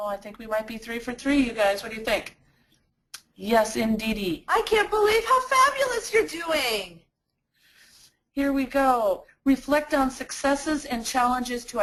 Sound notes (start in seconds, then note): 5.0 voiceover; 8.5 voiceover